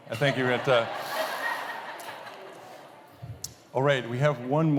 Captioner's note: laughter